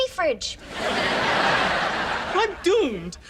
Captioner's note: audience laughs